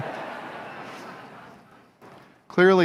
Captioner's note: laughter